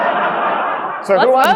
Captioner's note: audience laughing